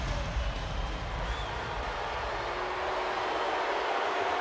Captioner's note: audience booing